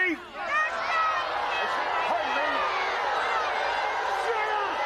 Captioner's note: inmates hollering